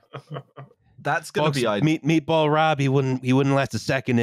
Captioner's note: laughter; Trump voice